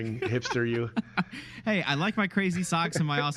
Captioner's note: laughing